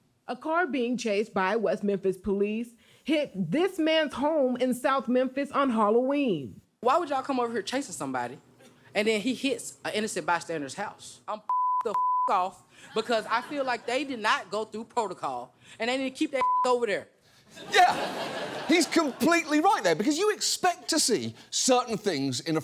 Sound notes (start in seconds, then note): 17.5 studio audience laughs